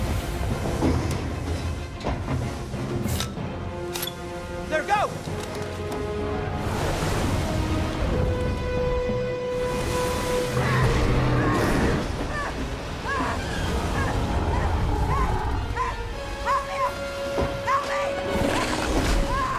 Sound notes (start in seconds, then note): 11.1 roars